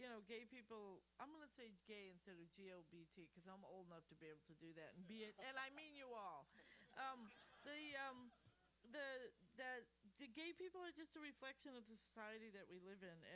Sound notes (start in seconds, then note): 6.8 laughter